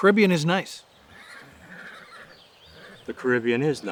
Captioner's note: horse neighing